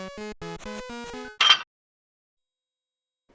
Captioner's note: metallic clank